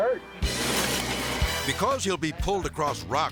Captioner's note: lively music; impact crashes